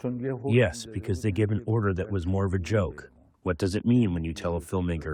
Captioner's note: through translator